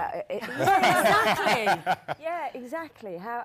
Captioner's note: panel laughs